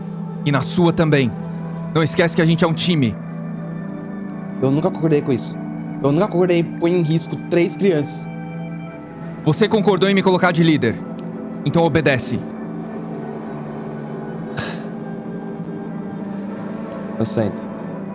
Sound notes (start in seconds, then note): 14.4 sighs